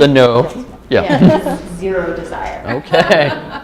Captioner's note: laughter